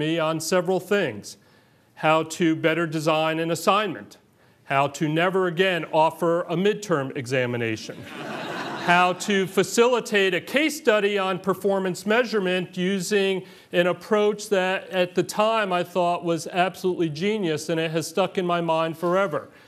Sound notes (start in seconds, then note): 7.9 laughter